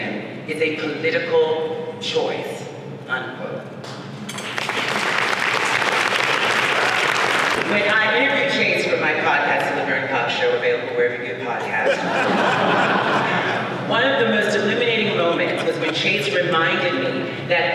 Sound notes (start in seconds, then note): 4.3 audience applauding; 11.8 audience laughs